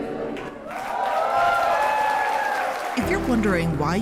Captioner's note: crowd cheers and applauds